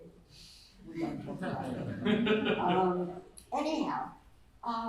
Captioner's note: laughter